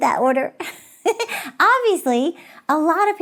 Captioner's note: laughing